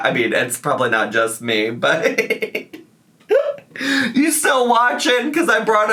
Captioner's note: laughs